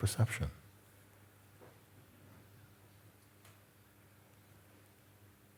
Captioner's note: silence